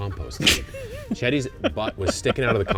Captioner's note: laughing